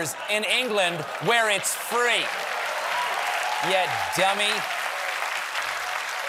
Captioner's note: cheers and applause